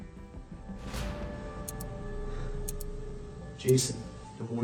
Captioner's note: timer ticking